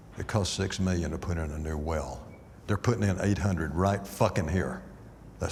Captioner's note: none